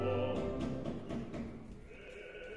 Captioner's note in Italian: Chiamano a la porta